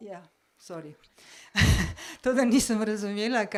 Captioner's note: laugh